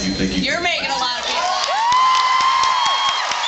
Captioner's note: cheers, screams, applauds